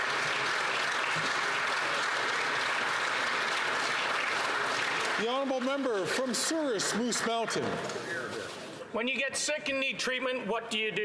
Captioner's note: some Applause